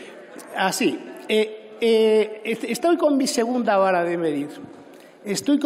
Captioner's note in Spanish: Risas